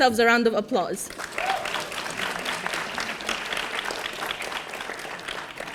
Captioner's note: audience applauding